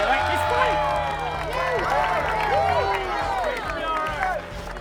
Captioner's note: crowd cheering